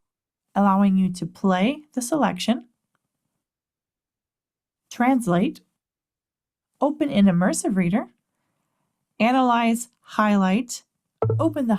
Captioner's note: click